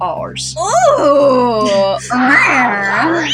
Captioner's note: chuckle